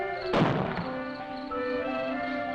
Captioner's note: gun shot